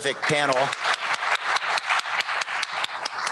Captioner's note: applause